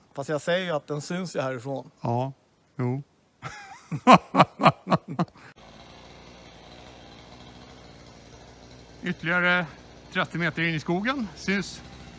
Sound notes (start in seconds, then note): 3.4 laughs